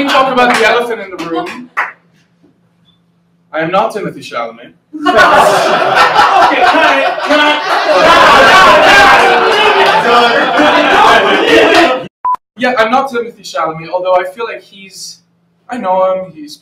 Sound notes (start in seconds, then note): 5.0 laughter; 8.1 audience shouting